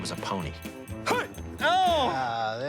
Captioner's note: groaning